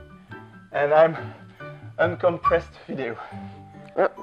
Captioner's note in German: atmet schwer